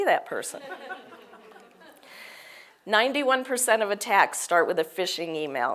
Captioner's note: laugh